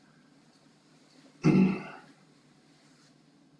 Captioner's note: cough